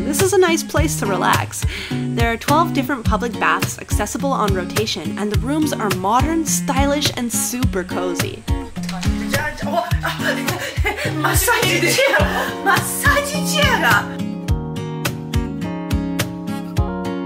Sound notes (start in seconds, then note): 9.2 speaking Japanese; 14.4 lively music